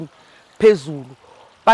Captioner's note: running water